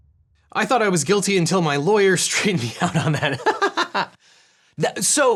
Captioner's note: laughs